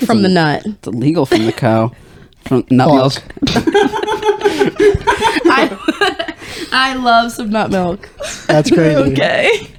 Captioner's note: laughing